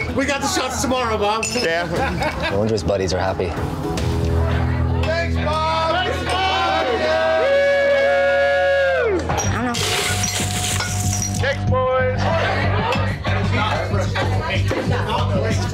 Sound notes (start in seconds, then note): 8.8 cheering; 11.6 customers shouting